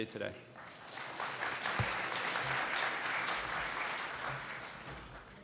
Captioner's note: applause